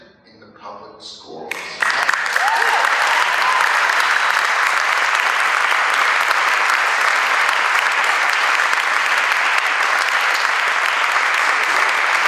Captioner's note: applause